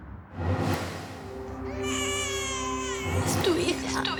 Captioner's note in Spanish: Llanto de bebé